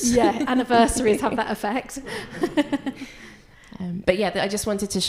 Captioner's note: laughs